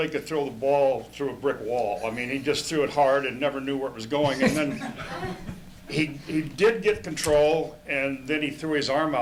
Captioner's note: laughter